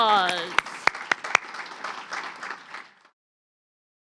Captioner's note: audience applauding